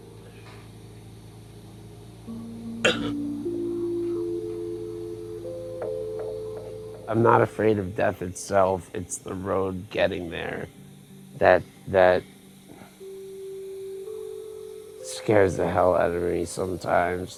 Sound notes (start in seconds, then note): 2.8 coughing